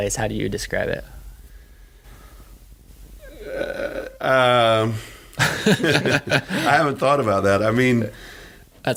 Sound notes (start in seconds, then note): 5.2 laughing